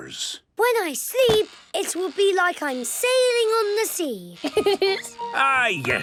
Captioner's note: laughing